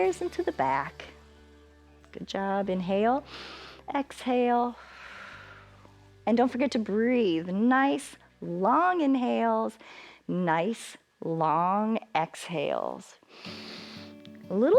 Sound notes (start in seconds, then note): 3.2 exhales; 3.3 inhales; 13.3 inhales